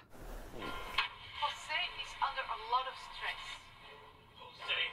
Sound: in English

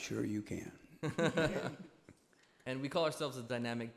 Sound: laughter

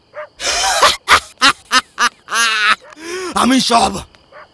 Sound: laughing

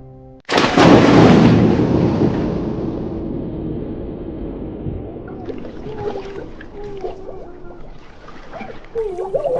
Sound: splash, person drowning

